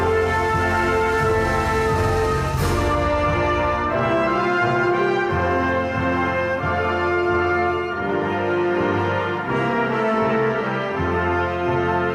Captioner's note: cheering and applause